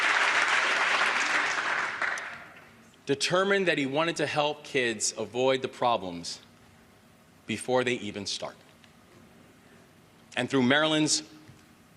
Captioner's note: applause